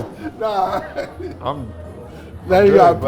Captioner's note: laughs